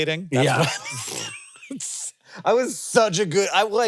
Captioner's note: Jason and Hank laughing